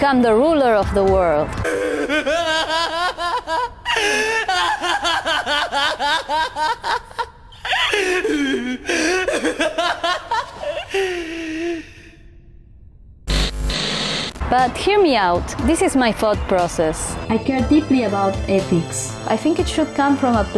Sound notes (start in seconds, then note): 1.6 evil Laughter